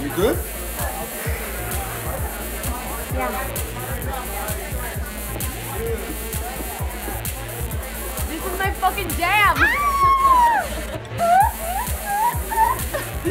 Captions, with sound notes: You good? yeah This is my fucking jam [NIKKI SCREAMING]